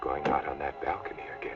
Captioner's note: fist thumping